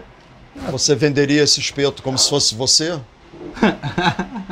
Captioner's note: speaking Portuguese; laughing